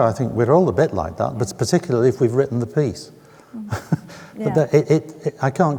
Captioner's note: chuckles